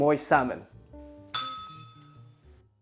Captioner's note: bell rings